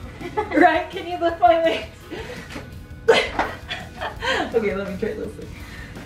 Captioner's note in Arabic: يضحك